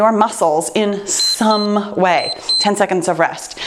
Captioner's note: timer beeps